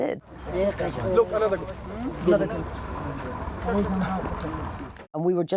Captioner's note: people speaking in foreign language